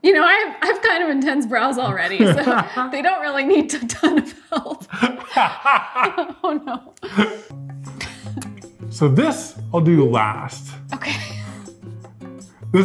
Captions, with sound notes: You know, I have kind of intense brows already, so they don't really need a ton of help. (both laughing) Oh no. So this I'll do last. Okay.